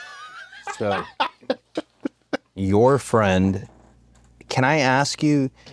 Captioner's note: laugh